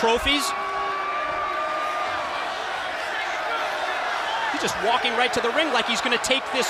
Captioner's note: crowd cheering